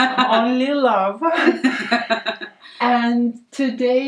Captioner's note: laughs